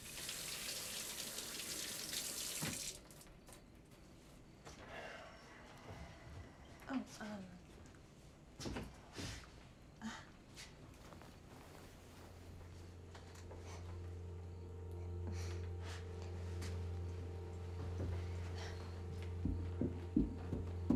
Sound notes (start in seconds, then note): 0.3 water splashing; 5.0 Tyler sighs; 10.0 Claire laughs; 12.4 gentle music; 15.2 Claire laughs; 15.5 crickets chirping; 15.5 tense music; 17.4 footsteps approaching; 17.7 tense music; 19.4 hand patting